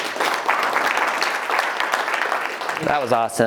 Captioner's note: applause